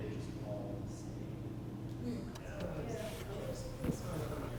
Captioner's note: people chattering